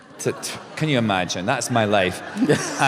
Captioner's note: laughter